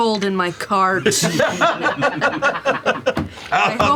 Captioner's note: laughter